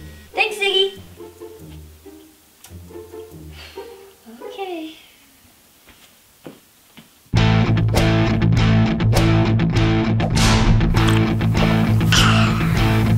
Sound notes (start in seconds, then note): 3.5 sighs; 7.3 rock music